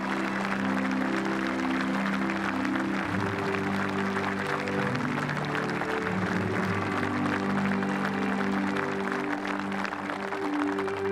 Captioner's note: speaking french; applause